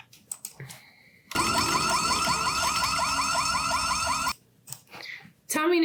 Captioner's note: Tundra siren blaring